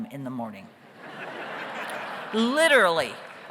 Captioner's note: audience laughs